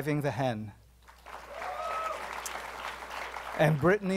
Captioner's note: applause